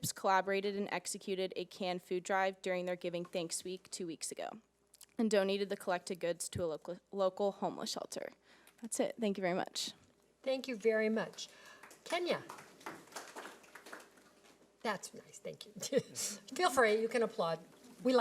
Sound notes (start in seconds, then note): 11.3 audience clapping